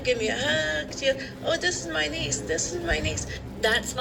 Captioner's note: on TV